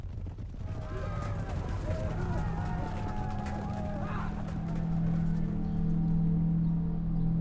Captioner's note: yelling and gunfire